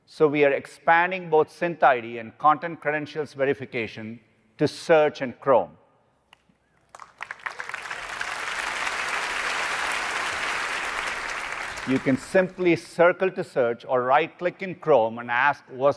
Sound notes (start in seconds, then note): 6.8 applause